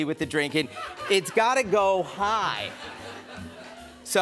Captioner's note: laughter